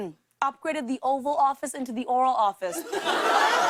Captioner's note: laughter